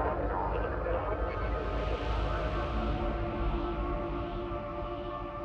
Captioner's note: radio transmissions echoing